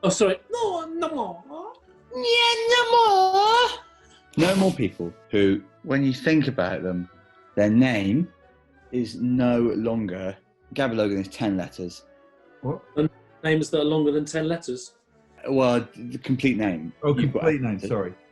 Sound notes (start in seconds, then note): 2.1 high pitched